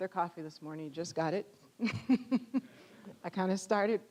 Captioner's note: audience chuckling